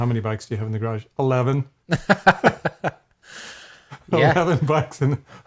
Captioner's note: laugh